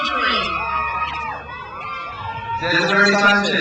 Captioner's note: crowd cheers